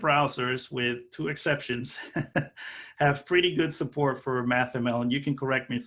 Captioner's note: laughing